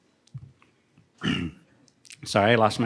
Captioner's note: clearing throat